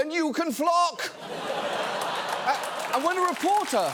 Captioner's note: studio audience laughs, claps